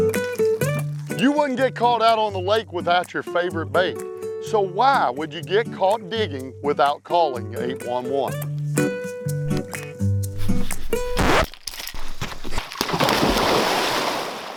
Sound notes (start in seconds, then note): 7.2 charming music; 10.4 record scratch; 11.6 loud splash